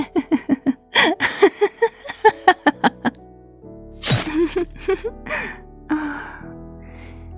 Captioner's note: laughs